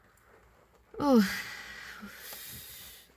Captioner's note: exhales